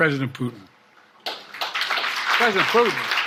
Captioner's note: audience applauding